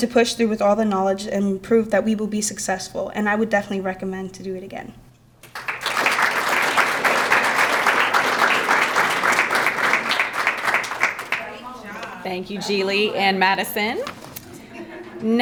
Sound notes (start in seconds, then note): 5.4 crowd clapping; 11.6 background chattering